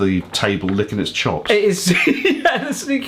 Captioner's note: laughing